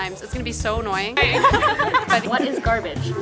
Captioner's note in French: Rires